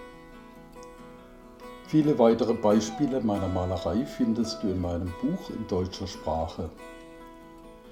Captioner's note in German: in deutscher Sprache